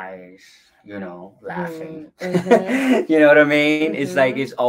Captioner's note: laughs